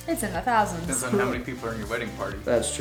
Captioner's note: male Voice